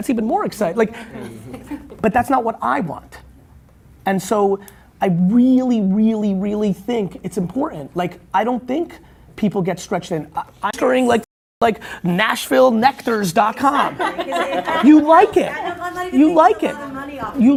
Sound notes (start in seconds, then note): 0.9 laughing; 13.6 laughing